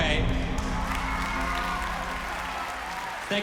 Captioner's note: audience cheers, applauds